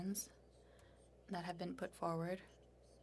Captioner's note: speaking French